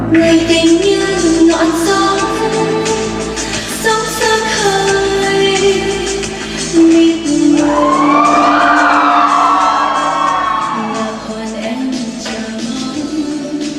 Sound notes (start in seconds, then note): 7.5 cheering